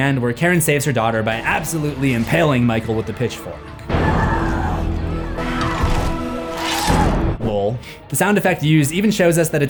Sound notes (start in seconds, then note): 4.0 Karen grunts